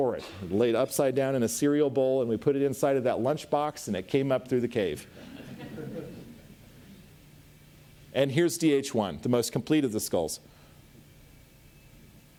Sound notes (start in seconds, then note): 5.1 audience laughs